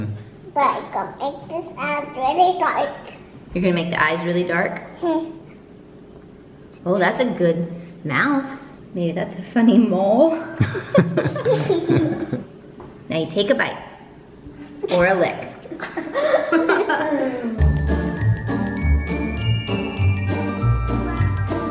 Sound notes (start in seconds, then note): 10.6 laughing; 15.7 children laughing in background